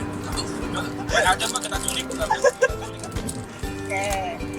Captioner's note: laughing